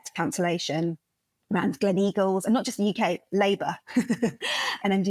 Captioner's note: laugh